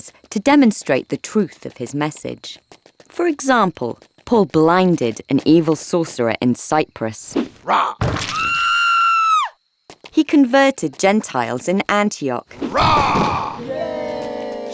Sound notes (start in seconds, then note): 7.6 Paul roaring; 8.5 sorcerer screaming; 12.6 Paul roaring; 12.9 crowd cheering